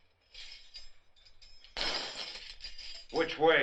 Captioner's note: keys rattling